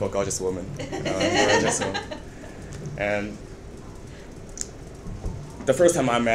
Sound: members of the audience laughing

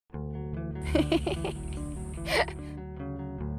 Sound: laughing

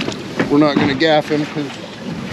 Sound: fish splashing

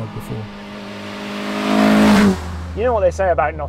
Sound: car engine roars

